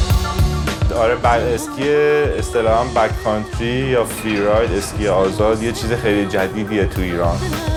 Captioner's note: speaks in other language: translation on screen